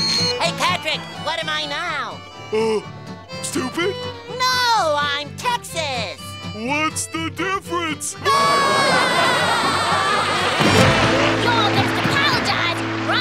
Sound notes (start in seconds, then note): 8.2 laughing